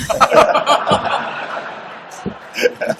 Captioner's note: laughter